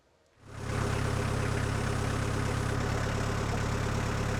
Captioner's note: engine purring